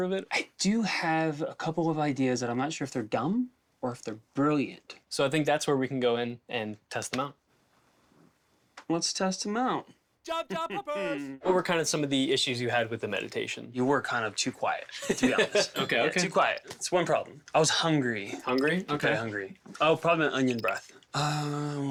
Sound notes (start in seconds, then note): 15.0 laughs